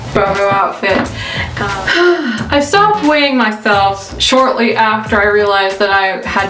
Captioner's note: sighs